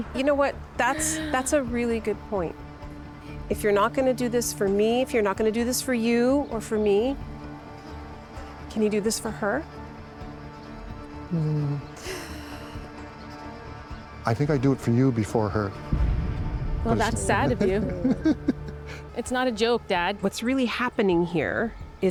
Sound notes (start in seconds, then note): 17.1 chuckles